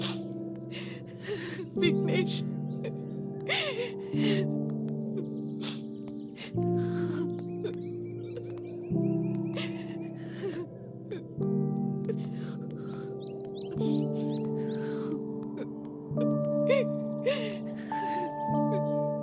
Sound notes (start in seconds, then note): 3.4 crying